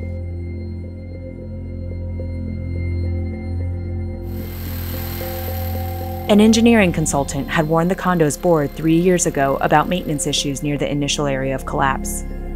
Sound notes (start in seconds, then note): 0.2 ominous music continues; 4.3 cutting tools whirring